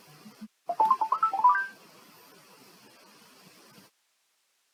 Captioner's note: alert chimes